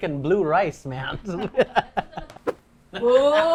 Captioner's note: laughs